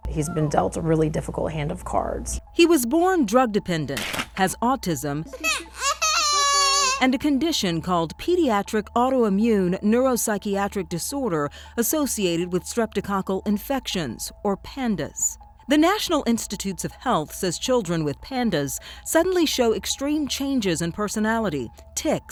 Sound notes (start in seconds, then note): 5.4 crying